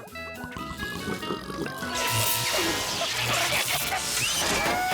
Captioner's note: fizzles